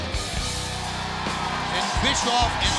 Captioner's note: crowd clamoring